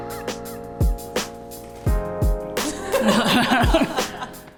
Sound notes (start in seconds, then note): 2.6 laughs